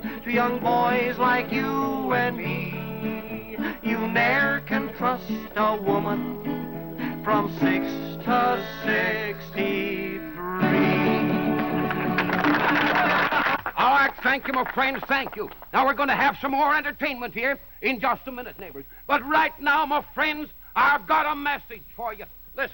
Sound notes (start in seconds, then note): 11.4 applause